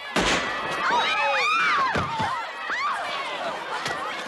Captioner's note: women scream